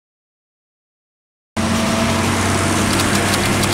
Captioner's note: truck engine revving; typewriter clicking